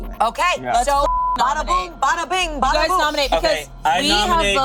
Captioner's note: beep